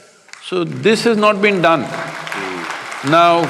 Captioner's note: applause